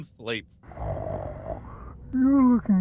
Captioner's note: Vincent snoring